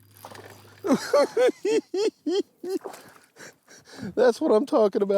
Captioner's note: giggling